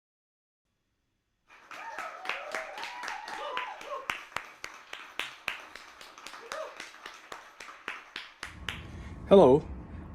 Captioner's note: applause and cheers